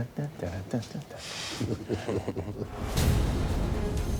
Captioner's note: laughter